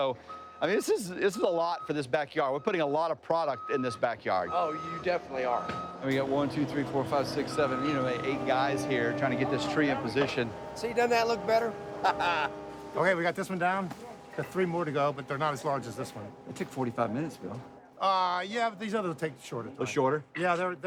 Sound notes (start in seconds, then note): 11.5 laughs